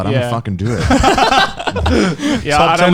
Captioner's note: laughing